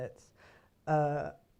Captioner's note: inhale